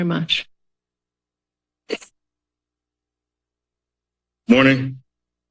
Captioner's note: silence